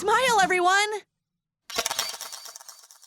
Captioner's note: camera snap